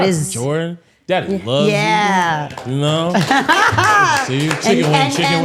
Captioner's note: laughs